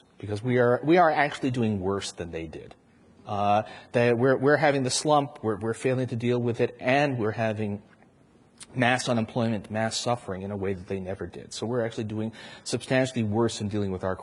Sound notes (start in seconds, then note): none